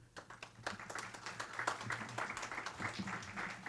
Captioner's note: audience clapping